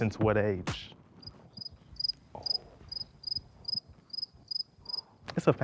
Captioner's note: crickets chirping